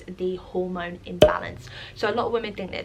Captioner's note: pop